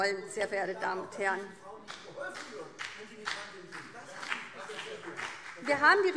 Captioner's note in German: Beifall